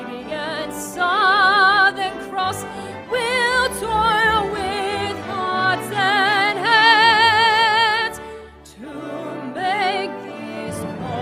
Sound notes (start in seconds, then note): none